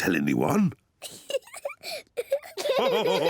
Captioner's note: giggles; all laugh